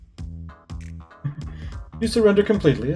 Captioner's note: chuckles